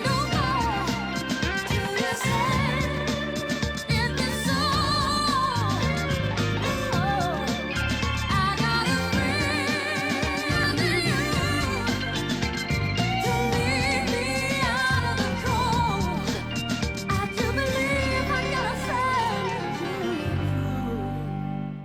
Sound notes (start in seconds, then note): none